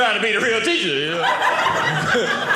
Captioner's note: audience laughing